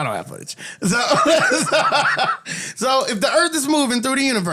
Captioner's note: laughter